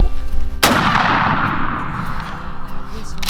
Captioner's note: gun firing